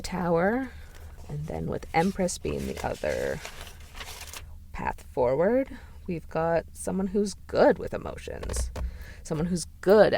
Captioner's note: pages rustling